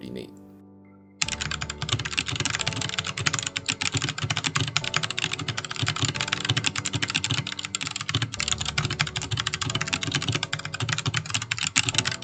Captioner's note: typing asmr